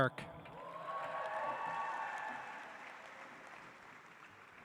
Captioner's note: audience applauds